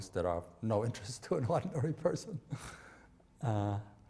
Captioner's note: chuckling